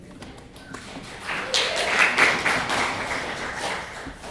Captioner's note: clapping